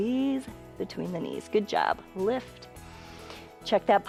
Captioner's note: inhales